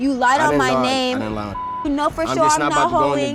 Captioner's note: beep